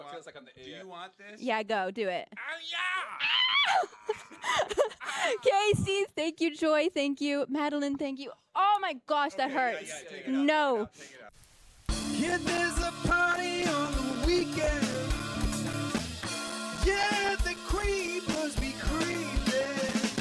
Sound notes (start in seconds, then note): 2.4 yells in pain; 12.4 singing